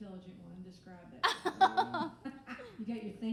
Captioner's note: laughing